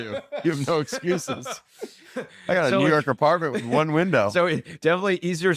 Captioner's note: laughs